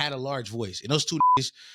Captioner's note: beep